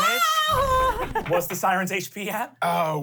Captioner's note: yells